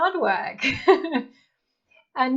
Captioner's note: laughing